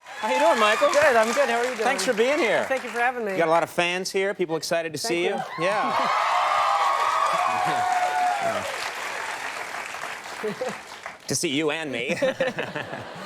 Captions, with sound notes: How you doing, Michael? Good, I'm good. How are you doing? Thanks for being here. Thank you for having me. You got a lot of fans here, people are excited to see you. Thank you. Yeah. (audience applauds) (Michael laughs) To see you and me now.